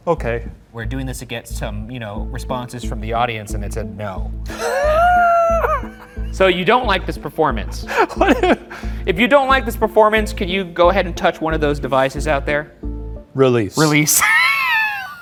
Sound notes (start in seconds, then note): 4.5 laughs; 13.8 laughs